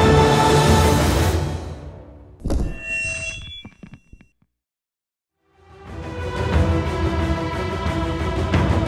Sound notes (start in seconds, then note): 2.4 mic drop